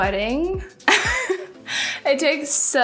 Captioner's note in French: rires